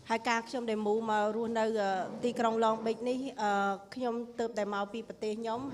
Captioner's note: speaking foreign language